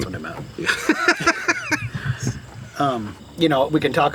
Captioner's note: laughs